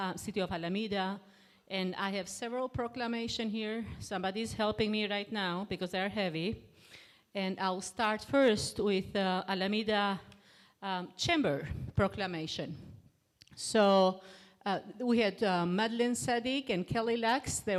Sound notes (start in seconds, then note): none